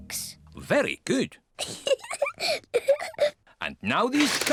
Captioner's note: laughs